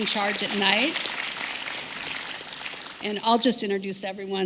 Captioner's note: applause